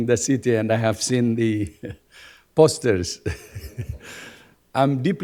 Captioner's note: chuckles